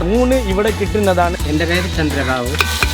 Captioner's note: in Malayalam